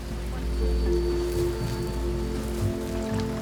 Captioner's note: rain falling steadily